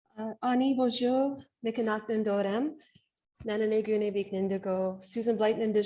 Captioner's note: speaking Anishinaabemowin